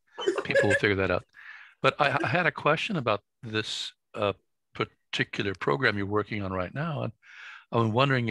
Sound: laughs

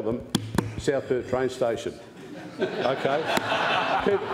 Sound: laughter

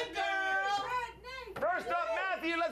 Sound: audience cheering

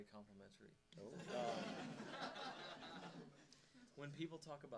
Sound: audience laughing

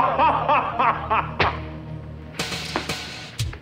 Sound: laughing; hand slaps

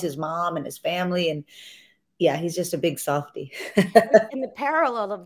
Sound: chuckles

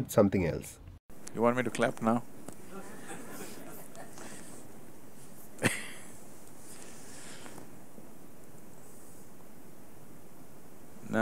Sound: laughter

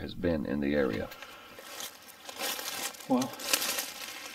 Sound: leaves rustling

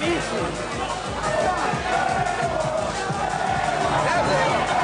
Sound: crowd chanting

